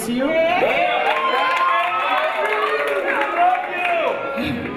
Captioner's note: audience cheering